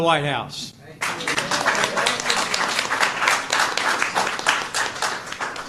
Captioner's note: applause